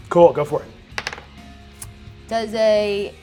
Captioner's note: die rolls